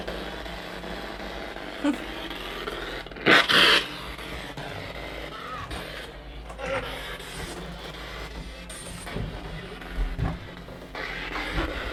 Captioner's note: sound of the Spirit Box in the background